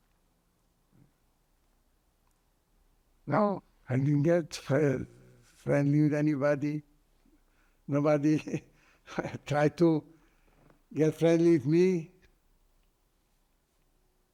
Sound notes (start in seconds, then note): 7.9 laughing